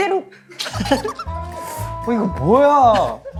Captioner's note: laughing